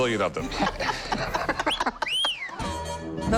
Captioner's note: laughter